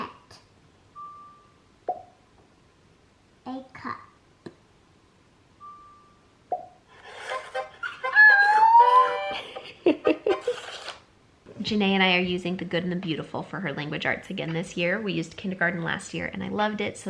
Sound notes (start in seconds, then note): 7.2 peppy music; 8.0 exclaims